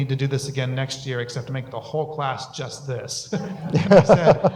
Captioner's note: laughter